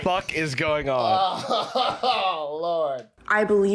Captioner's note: laughing